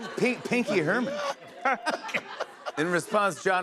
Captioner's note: laughter